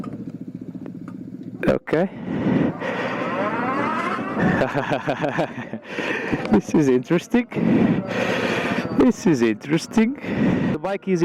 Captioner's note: nervous laughter